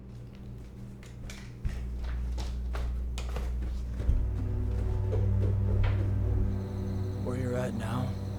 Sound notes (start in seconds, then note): 4.9 crickets and other night sounds